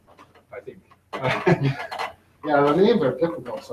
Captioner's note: laughs